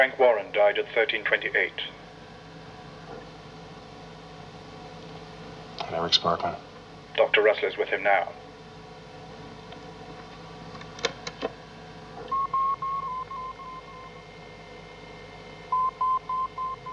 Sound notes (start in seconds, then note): 11.1 cliques de botão; 12.2 monitores apitando